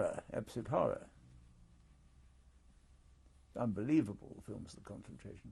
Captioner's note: pauses for 3 seconds